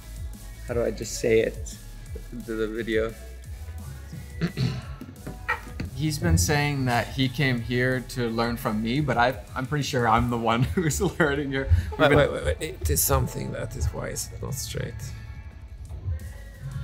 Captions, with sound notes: how do I just say it into the video? (clears throat) - He's been saying that he came here to learn from me, but I I'm pretty sure I'm the one who is learning here. - Wait, there's something here that's not straight.